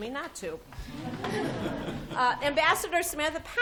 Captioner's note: laughter